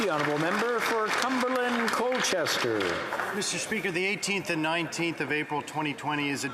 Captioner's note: applause